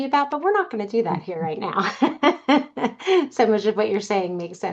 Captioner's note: laughs